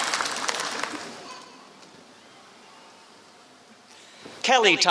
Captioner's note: applause